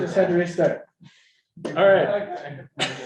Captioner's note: audience laughs